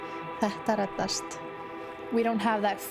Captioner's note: speaks in foreign language